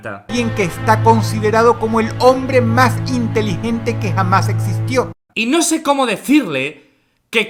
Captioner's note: sarcastic audio